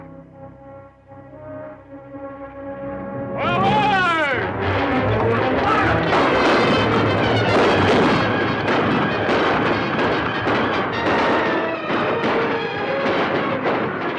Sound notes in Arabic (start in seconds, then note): 0.6 صهيل الحصان; 4.8 موسيقى درامية; 5.6 صوت طلقات نارية